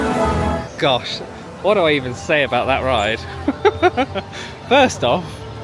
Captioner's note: laughing